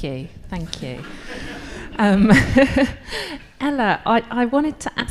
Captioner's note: all laughing